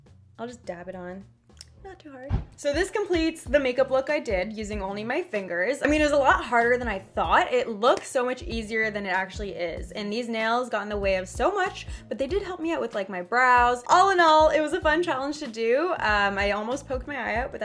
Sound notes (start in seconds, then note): 1.5 smacks lips